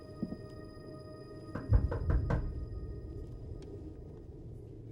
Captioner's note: knock on door